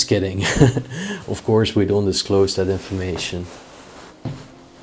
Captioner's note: chuckles